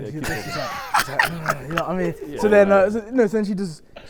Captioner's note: Tobi laughs